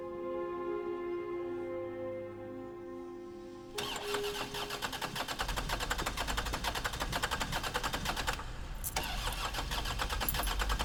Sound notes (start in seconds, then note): 3.8 car engine cranking